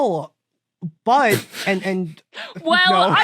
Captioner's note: others crack up